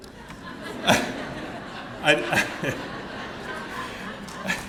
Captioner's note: laughter